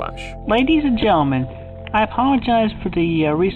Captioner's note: none